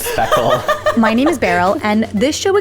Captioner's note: laughing